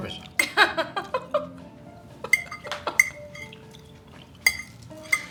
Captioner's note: laughing